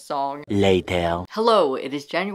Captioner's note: Spongebob Voice